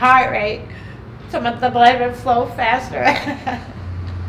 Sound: laughing

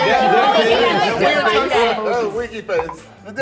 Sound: bell dings

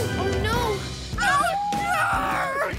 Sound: screaming and howling

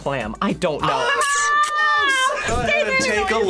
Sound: yells

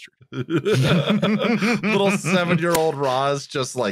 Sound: laughter

